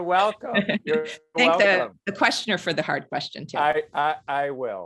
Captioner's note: laugh